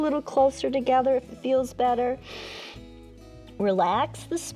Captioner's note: inhales